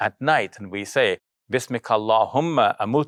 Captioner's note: speaking in foreign language